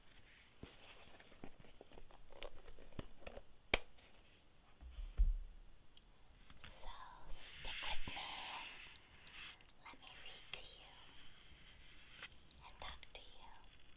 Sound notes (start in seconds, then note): 3.7 rubber band snap